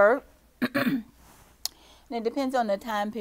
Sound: clears throat

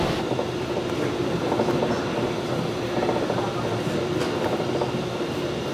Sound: machinery continues whirring

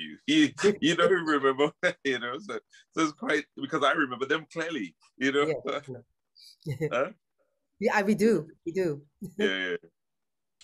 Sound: laughs

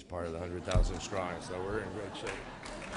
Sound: laughter; applause

